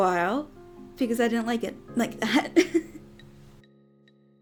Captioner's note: giggles